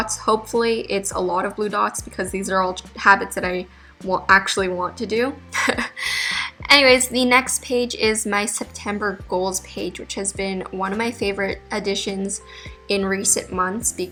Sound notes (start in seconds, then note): 5.6 laughs